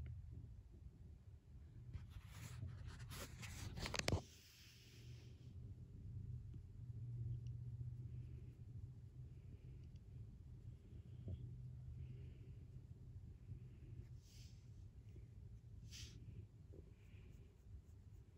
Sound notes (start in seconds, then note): 2.0 no dialog, some breathing and camera shuffling noises